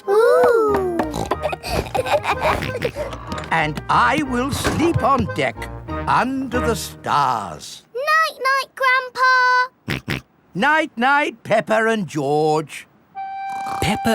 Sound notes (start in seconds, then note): 1.0 snorts, laughs; 10.0 snorts